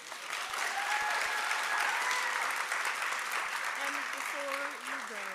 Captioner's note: applause